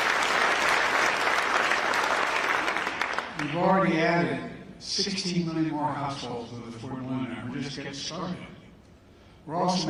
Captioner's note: applause